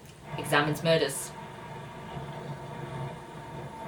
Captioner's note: drilling sounds